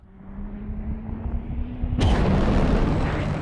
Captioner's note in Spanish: aceleración de motor